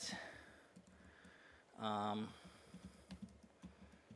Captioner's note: computer typing